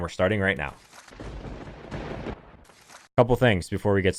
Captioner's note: crackles